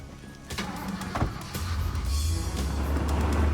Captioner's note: engine starting; Humvee rumbling